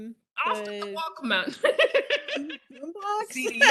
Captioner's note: laughs